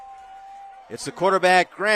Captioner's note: applause